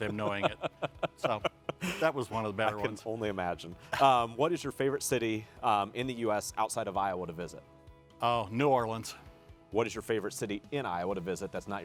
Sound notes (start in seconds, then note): 4.1 laughs